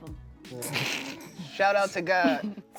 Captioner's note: laughs